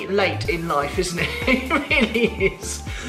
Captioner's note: laughs